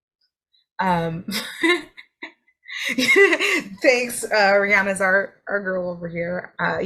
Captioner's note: laughs